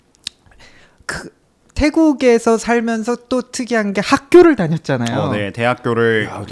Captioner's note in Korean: 목을 가다듬음